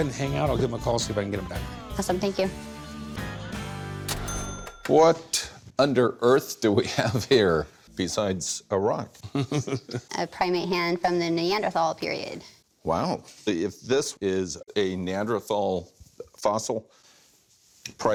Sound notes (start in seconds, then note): 4.0 cash register ring; 9.2 chuckles